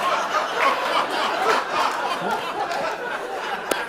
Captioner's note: laughter and applause; laughter continues